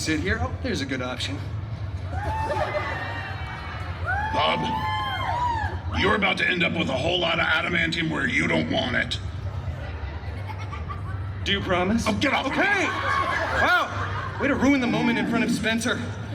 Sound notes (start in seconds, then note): 2.0 guests cheering and laughing; 10.1 guests chuckling